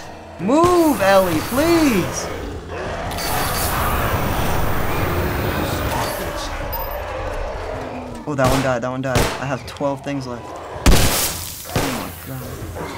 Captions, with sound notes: (testily) Move, Ellie! Please. (Bloaters growl) (flames whoosh) (Bloater snarls) Ooh, that one died. That one died. I have 12 things left. (spores burst) Oh my god.